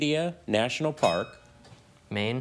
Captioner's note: bell dings